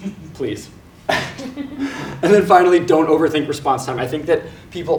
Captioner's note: laugh